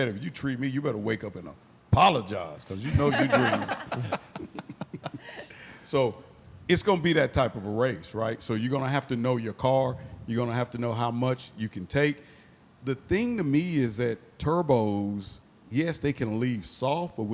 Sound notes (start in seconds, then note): 5.6 laughing